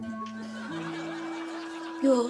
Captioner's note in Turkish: Gülme sesleri